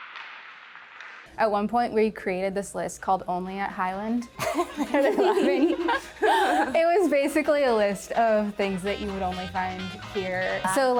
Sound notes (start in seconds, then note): 4.4 chuckling